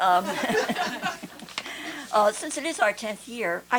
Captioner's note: laughter